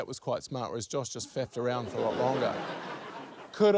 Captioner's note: laughter